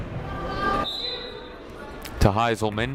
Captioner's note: whistle blows